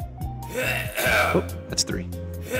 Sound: cough, cough, cough

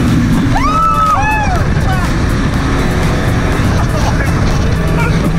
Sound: cheering and laughing

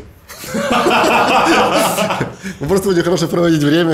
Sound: both laughing

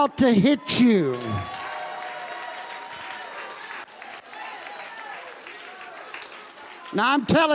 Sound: congregation cheering and applauding

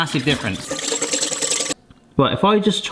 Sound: whisk whirring

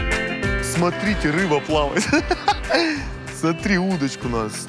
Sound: laughs

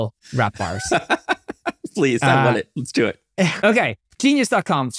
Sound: laughing

